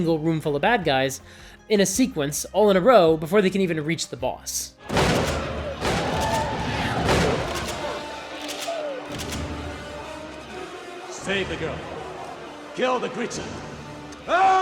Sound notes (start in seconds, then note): 4.8 gunshots